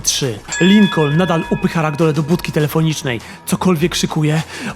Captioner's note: ring sound